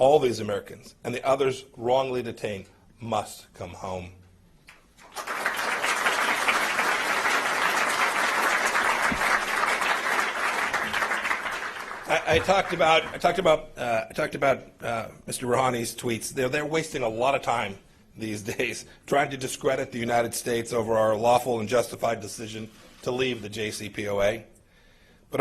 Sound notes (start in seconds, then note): 5.0 applause